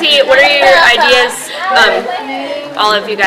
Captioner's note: chatter